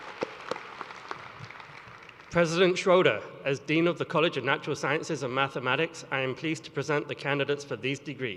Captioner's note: cheers and applause